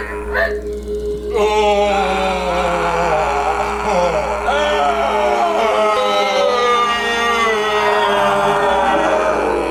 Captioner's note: chorus moaning; Danko groaning; deep growling